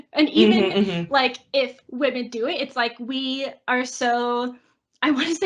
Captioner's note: laughs